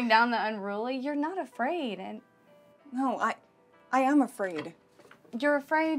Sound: stammers

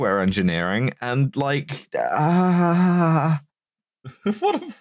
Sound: aaahaaahaaahaaahaa

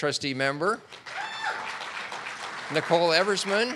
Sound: audience clapping

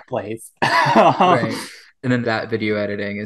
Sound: laughing; laughs

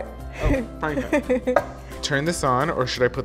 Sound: laughs

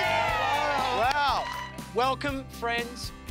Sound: cheering

